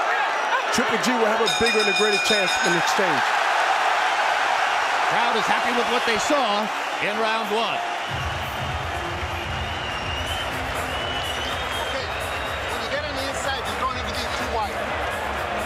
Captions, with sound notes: Triple G will have a bigger... [bell ringing] And a greater chance in the exchange. [cheers and applause] - Crowd is happy with what they saw in round 1. [upbeat music playing] - Okay, when you get on the inside, you don't ever get too wide.